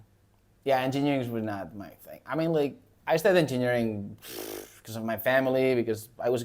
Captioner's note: blows raspberry